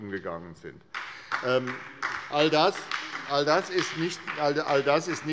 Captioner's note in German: Beifall bei der SPD